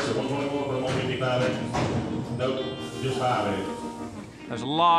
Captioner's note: auctioneer speaking rapidly